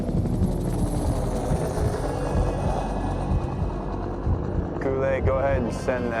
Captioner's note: sound of helicopter rotors